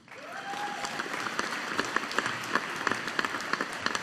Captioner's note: audience applauding